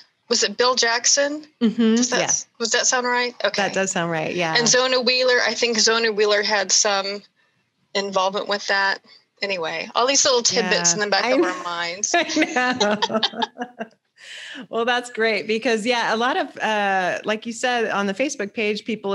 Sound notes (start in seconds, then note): 12.1 both laugh